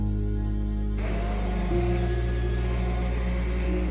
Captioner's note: whirring